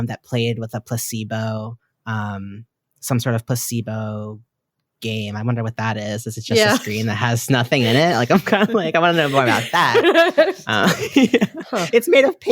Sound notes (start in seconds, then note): 7.7 all laugh